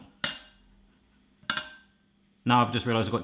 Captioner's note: knife clinks twice against glass bowl